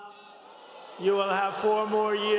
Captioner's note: cheers and applause